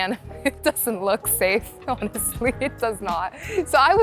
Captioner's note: laughing